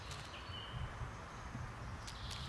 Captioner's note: birds chirping